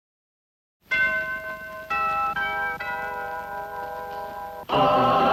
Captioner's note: doorbell ringing